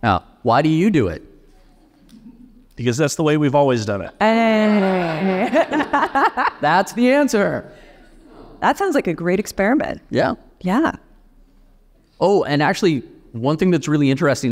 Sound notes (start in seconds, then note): 4.3 laughing; 4.6 audience laughing